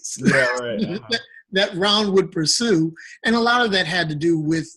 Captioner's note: laughing